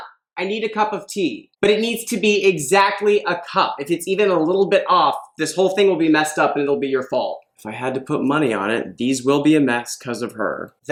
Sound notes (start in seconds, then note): none